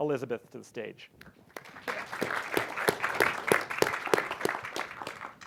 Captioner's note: applause